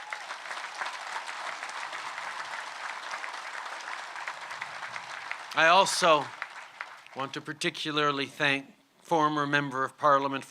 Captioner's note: applause